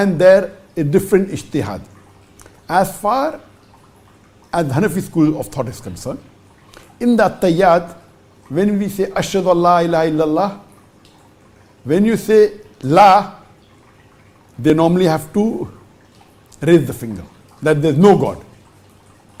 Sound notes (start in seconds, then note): 7.4 saying Arabic verse while sitting